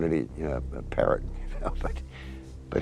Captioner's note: chuckles